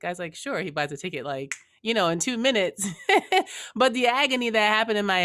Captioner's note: laughs